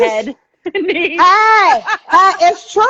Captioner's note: laughing